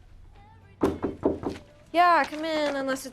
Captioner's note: KNOCKlNG AT DOOR